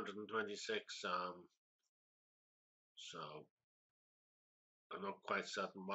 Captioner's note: pause